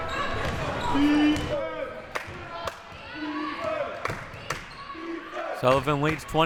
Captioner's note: clapping